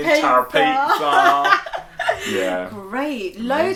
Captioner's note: laughing